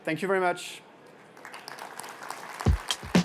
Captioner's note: applause